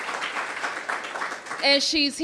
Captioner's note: applause